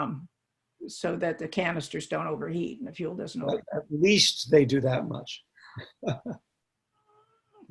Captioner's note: chuckle